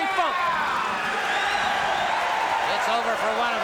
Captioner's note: crowd cheering